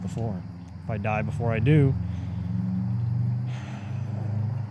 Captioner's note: sighs